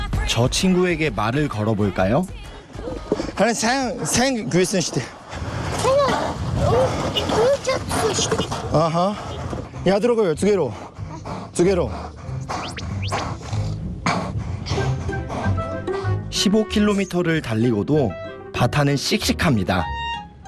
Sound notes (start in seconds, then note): 12.5 panting Panting